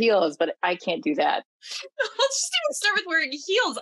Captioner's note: laughs